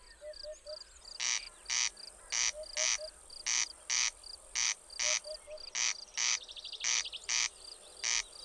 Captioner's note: głos derkacza, w tle głos dudka, odgłosy świerszcza